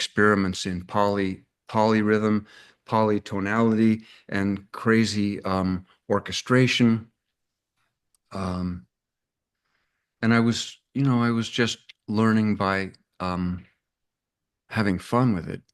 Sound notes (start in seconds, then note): none